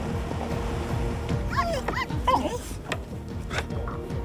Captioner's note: whimpering